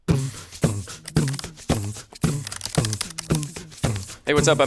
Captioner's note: accompanying beat boxing; upbeat percussion music